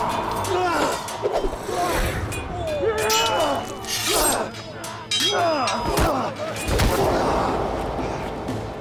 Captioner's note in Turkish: Müzik - Hareketli; Dövüş sesleri